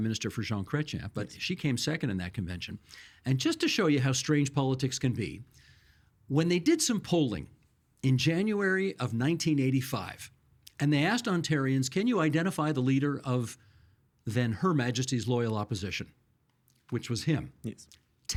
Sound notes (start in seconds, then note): none